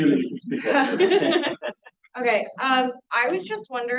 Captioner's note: everyone laughing